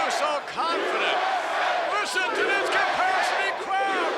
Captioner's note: crowd chants "USA"